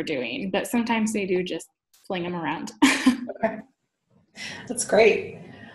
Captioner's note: laughs